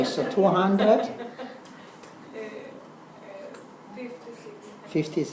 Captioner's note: laugh